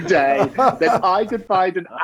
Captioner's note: others laughing